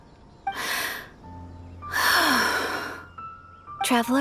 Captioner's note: long exhale